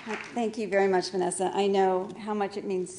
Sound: applause

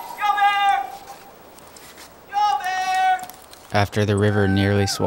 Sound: yelling

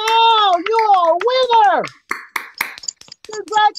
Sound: applause

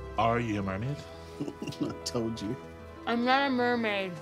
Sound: chuckling

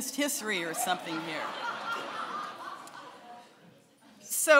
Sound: laughing

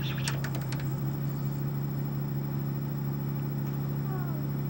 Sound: some faint tracking sounds as it seeks to new chapters

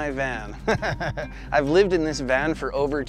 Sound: laughing

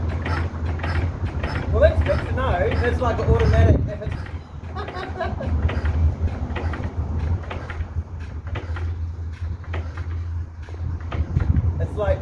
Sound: crazy giggling

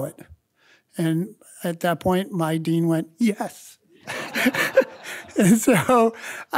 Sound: laughs

